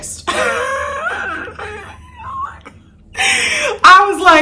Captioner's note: laughing